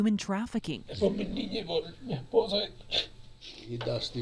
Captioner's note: speaking spanish